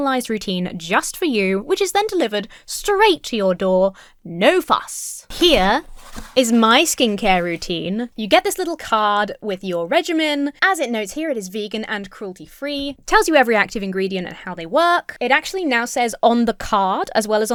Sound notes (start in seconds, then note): none